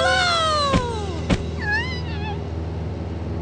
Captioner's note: whimpering